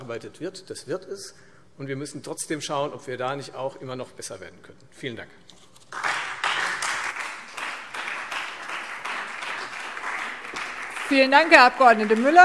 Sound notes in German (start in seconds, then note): 5.9 Beifall Freie Demokraten und vereinzelt SPD